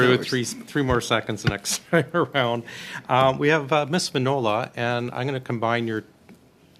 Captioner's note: laughter